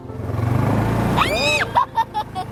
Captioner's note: ATV revs; screams and laughs